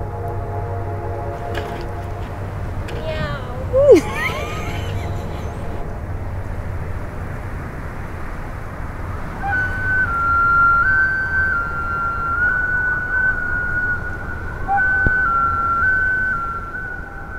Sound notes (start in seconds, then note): 3.8 laughter